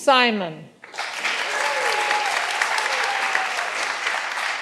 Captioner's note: all applauding